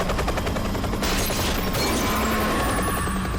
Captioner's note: gunshot